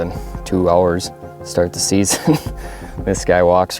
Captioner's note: laughs